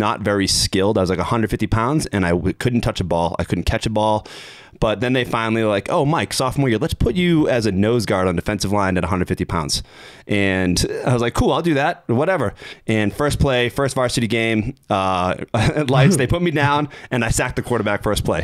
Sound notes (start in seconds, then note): 15.5 chuckling